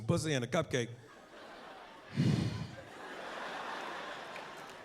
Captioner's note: sighs